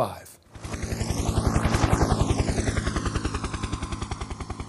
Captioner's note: helicopter sounds